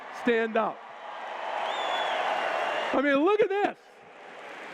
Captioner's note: cheers